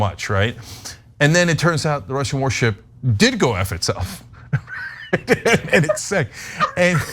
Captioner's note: laugh